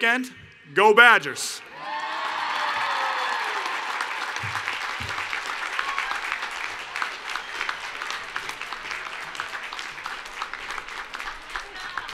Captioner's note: cheering and Applause